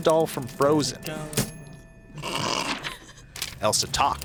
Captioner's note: laughs